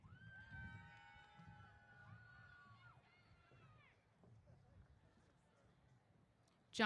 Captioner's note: cheers